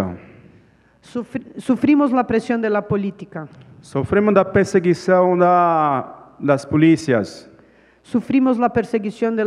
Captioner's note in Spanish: Ponente habla en portugués